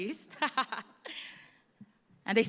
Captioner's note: laughter